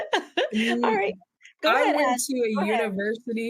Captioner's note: laughs